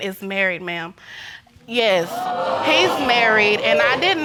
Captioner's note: audience exclaiming